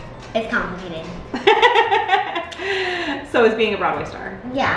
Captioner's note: laughs